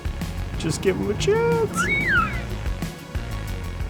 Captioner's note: toy makes noise; toy squeaks